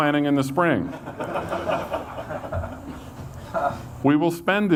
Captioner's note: audience laughs